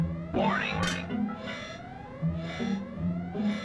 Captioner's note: alarm